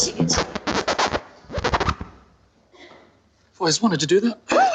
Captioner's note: record scratches